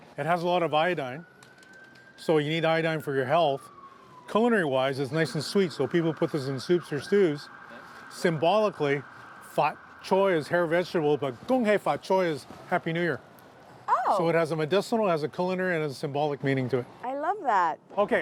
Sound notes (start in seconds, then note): 11.4 speaking in foreign language